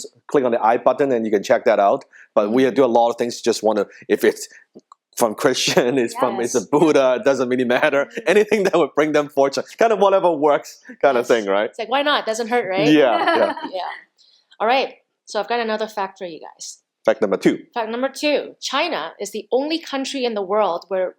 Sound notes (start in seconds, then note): 8.0 laughing; 12.7 all laughing